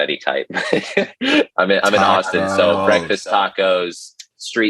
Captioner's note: laughs